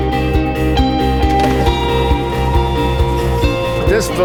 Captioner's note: Coke tumbling from machine